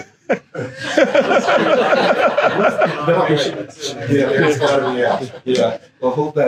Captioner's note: laughter